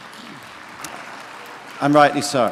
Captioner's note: clapping